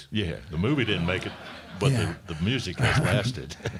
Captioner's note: crowd laughing